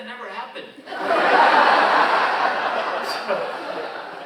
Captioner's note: audience laughing